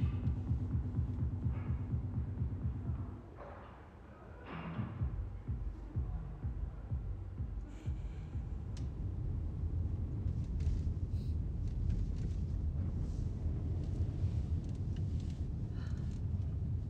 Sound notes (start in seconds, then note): 7.2 long sigh